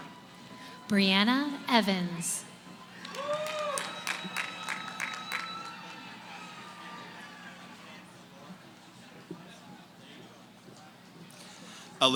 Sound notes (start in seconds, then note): 2.4 cheering; 7.5 background conversations